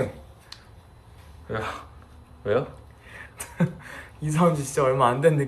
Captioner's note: the hamster-kitty suddenly bursts out laughing